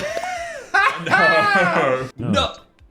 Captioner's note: laughing